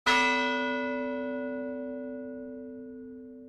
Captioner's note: bell chiming